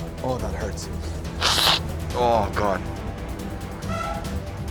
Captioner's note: sniffs